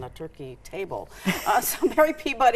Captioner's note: chuckles